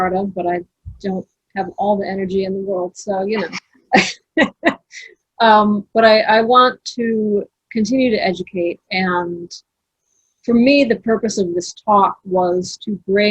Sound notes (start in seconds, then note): 4.2 all laughing